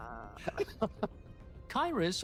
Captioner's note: laughs